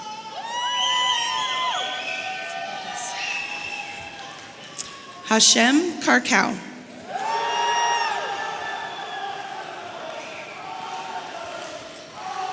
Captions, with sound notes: (audience cheering) Hashem Karkouh. (audience cheering)